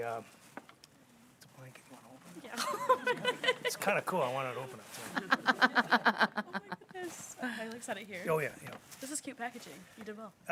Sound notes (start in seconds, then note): 2.5 chuckles; 4.8 people chuckling